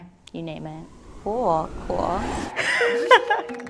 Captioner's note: whooshing sound; laughs; upbeat gentle music